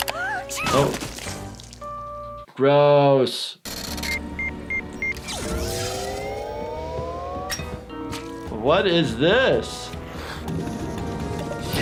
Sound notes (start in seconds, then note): 0.4 Giggles sneezing; 3.7 machine beeping